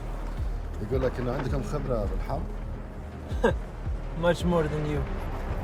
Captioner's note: interpreter speaks in foreign language